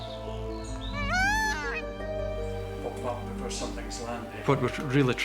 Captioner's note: peacock squawks